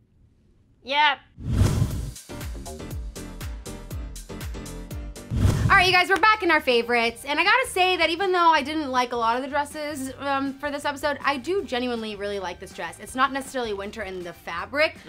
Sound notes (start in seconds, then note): 1.4 whoosh; 2.7 upbeat music; 5.2 whoosh